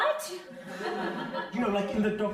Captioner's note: crowd laughing